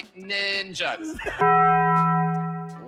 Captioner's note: bell ringing